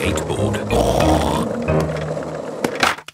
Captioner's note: snorts